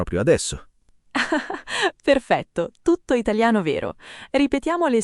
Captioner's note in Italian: Haha